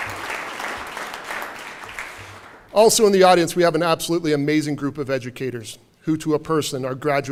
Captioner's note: applause